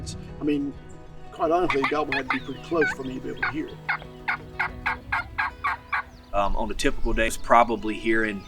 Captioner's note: turkey calling